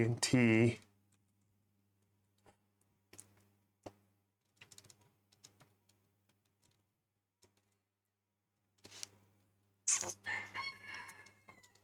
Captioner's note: typing sounds